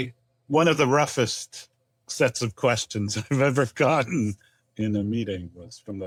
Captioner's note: chuckles